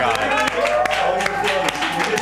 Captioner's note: group clapping